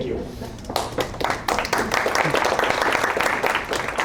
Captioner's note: applause